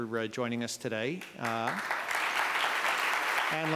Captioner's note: applause